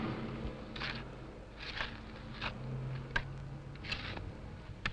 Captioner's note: shovels scrape